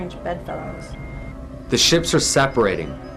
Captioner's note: alarm